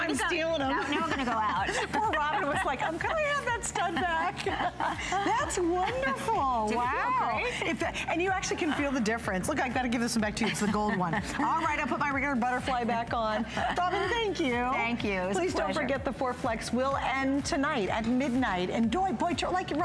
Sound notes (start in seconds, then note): 4.0 laughter